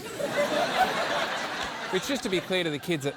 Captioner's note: laughter